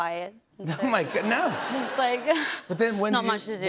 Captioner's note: laughter